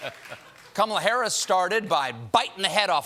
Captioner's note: laughter